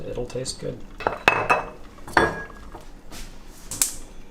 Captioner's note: glass clinking